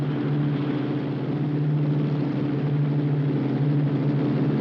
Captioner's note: none